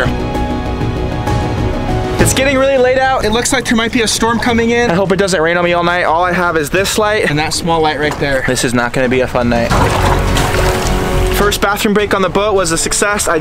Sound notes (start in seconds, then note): 0.0 rousing music; 9.7 waves splashing